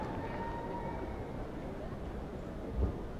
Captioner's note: cheers and applause